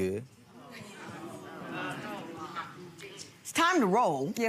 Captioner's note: audience murmuring